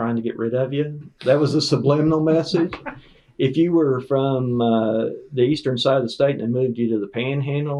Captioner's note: laughter